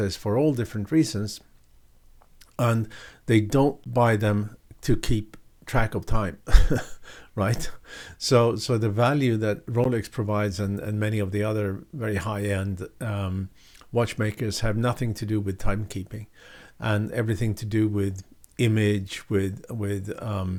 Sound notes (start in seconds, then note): 6.5 laughs